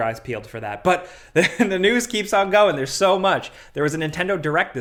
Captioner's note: laughs